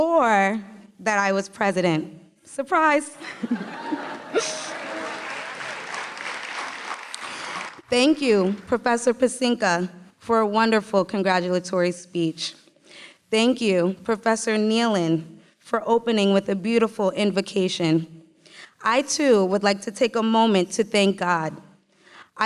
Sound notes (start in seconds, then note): 4.3 applause